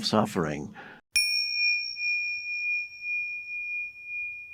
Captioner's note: bell chimes